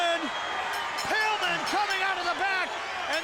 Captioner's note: bell rings